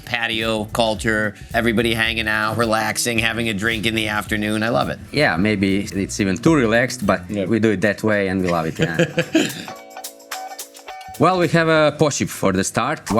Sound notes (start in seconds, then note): 8.2 laughing; 10.1 upbeat music